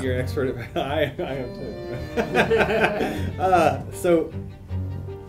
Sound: chuckles; laughing

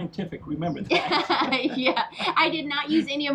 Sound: laughs

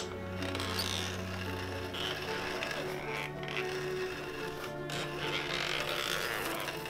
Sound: mechanical whirring; peaceful piano music

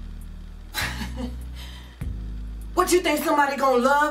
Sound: mom laughs

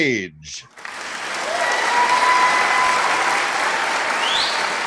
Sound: audience applauding

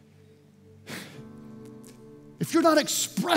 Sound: sighs

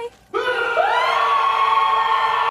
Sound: screaming

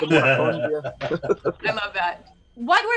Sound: laughing

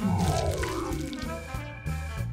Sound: electric static

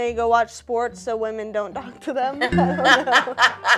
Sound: laughs

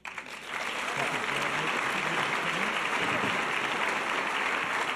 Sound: audience cheers and applause

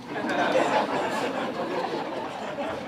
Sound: laughter

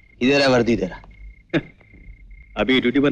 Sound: chuckles

